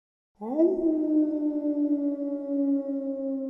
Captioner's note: wolf howling